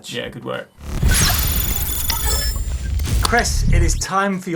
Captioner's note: electronic dinging